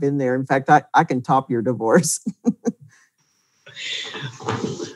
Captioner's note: laughs